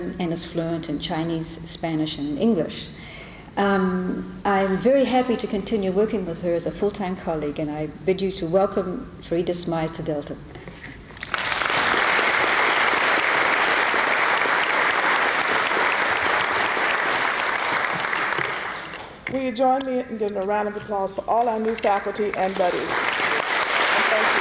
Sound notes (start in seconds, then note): 11.1 applause